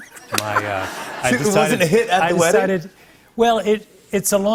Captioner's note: laughter